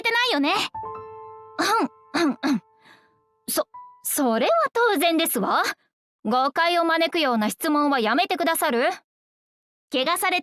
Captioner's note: cough, cough